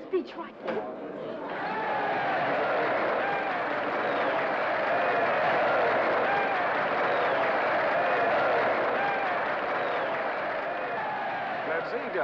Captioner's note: crowd cheers & applauds